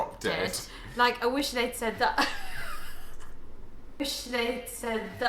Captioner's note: laughing